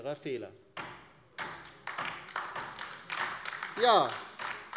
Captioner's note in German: Beifall bei der LINKEN